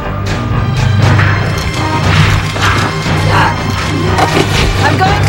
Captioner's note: punches thudding